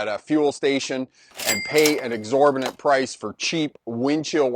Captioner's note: register clicks